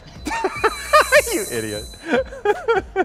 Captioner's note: Bobby laughing